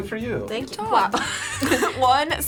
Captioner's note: laughs